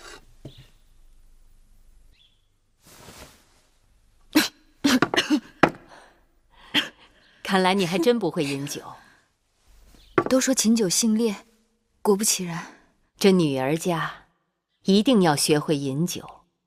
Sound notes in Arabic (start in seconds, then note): 4.8 سعال